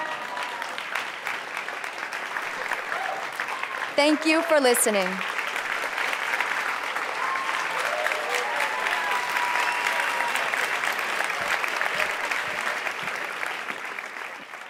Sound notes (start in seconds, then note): 0.1 applause; 5.9 applause, cheering